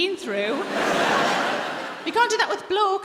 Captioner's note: audience laughing